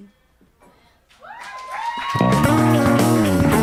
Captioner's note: crowd cheering; upbeat rock music